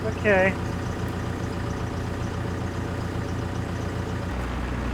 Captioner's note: engine revving